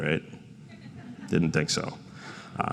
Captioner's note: crowd laughs